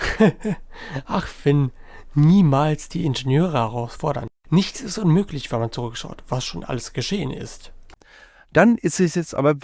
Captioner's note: laughs